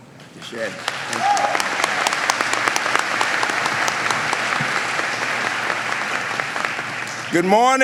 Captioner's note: applause